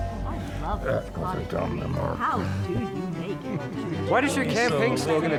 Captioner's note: group chattering